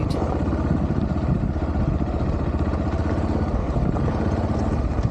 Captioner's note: engine noise